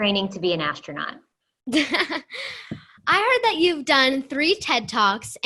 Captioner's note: laughter